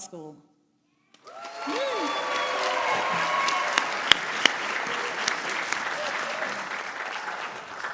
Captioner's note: applause